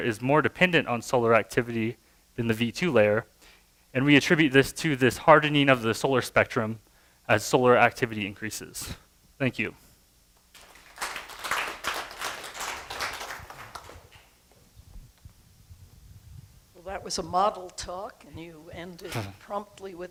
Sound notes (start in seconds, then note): 10.5 applause